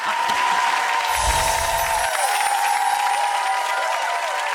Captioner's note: audience applauding